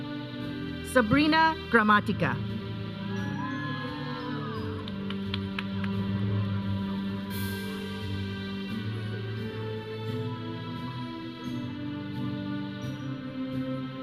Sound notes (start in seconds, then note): 3.1 audience cheering; 6.2 processional music